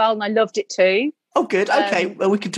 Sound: male Voice

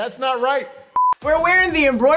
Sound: electronic beeping

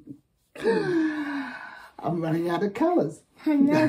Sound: laughs; gasps; both laugh

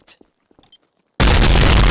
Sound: beep

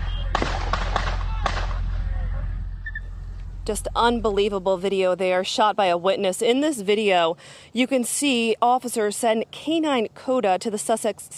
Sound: gunshots

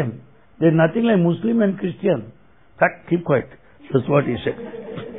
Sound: laughter

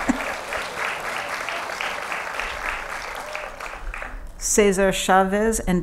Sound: applause

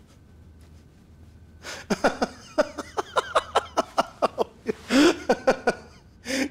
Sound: laughing

